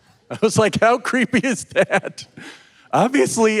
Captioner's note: audience laughing; chuckles